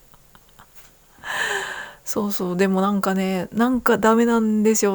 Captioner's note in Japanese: 息をのむ音